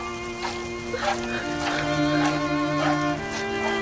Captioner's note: milk hitting pail; crying